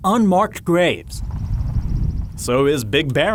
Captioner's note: birds chirping; wind blowing